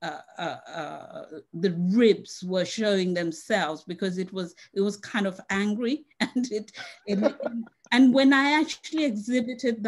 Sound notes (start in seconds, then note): 7.0 laughs